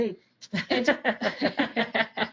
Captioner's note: laughter